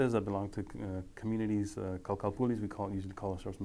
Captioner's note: speaking foreign language